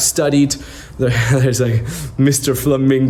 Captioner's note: chuckles